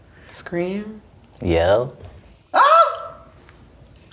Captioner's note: yells